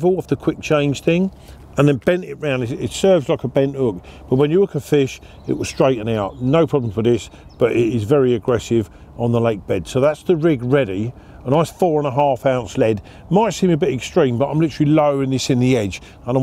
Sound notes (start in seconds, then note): none